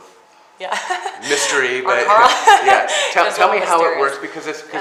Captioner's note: laughs